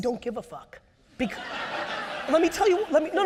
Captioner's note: audience laughs